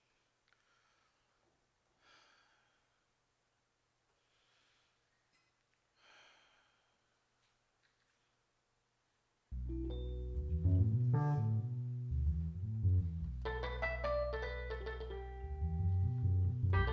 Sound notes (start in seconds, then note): 1.4 breathing deeply; 9.5 soulful music